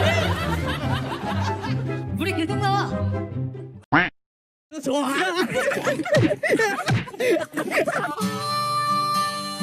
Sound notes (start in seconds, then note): 5.3 happy children giggling